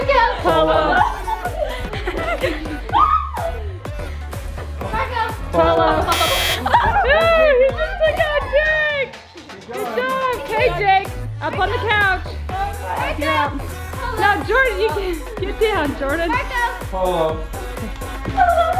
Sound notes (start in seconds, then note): 1.8 giggles; 6.0 buzzer buzzes